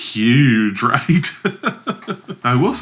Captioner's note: laughs